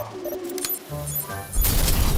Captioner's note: electronic beeping